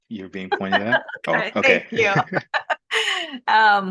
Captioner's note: laughs